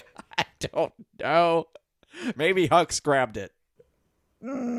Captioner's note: laughing